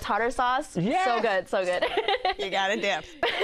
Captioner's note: laughs